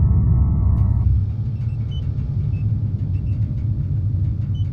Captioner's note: machines beeping